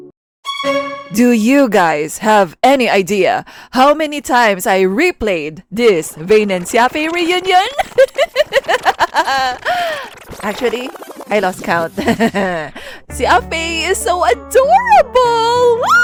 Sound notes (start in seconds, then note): 7.6 villainess laugh; 15.8 fangirl squee